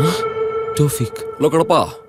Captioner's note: inner voice